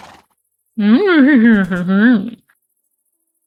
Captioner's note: imitaing horse noiseS